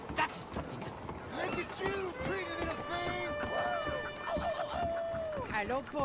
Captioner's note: howls at him